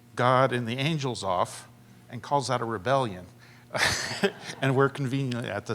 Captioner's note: laughter